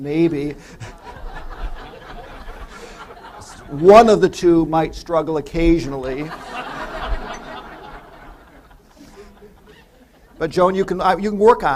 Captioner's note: laughter